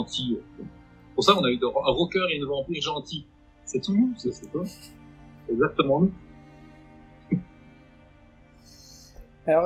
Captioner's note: laughs